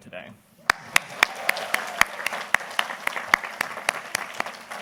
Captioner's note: everybody applauding